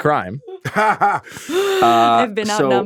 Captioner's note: laughs